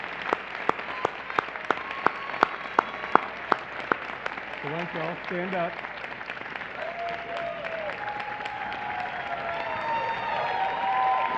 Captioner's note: applause